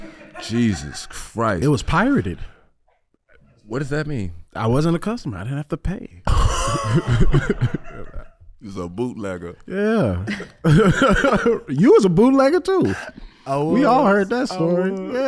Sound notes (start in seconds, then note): 0.2 audience member laughing; 6.3 laughing